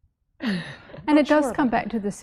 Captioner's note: laughs